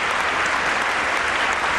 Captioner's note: applause